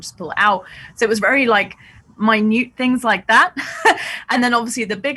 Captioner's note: laughs